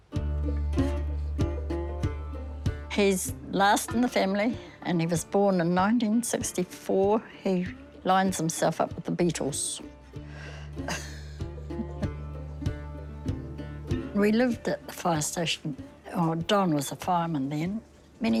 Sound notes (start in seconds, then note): 0.1 country music; 10.8 laughs